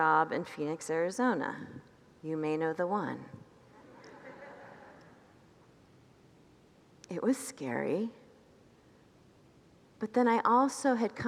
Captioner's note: congregants laugh